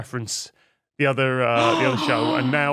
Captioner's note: gasp